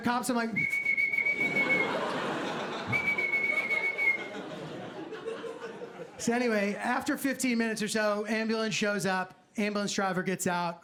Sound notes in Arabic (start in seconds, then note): 0.9 صفير